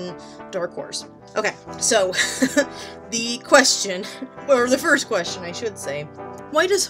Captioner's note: laughs nervously